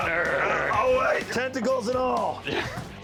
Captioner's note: grunting and growling